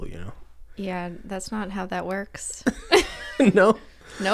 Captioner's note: they crack up